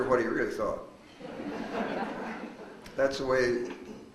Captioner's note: audience laughs